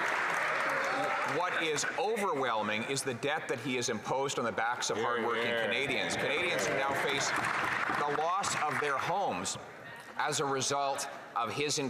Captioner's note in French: voix de l'interprète